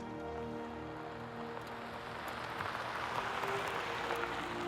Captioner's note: car rumbling